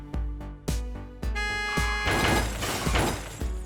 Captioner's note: car horn